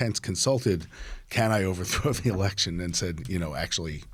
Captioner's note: laughs